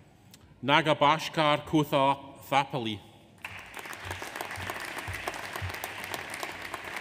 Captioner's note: audience applauds